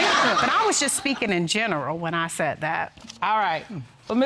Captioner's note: audience laughing